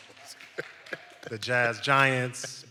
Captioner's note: all laughs